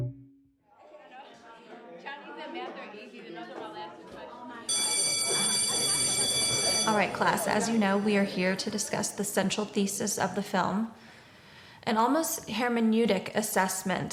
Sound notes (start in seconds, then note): 1.4 people chattering; 4.6 school bell rings